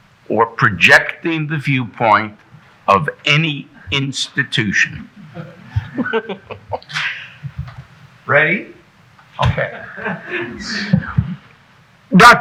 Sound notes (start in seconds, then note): 4.8 giggling; 5.0 audience member chuckles; 9.4 audience chuckling